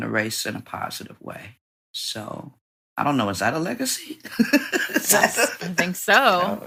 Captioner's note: laughs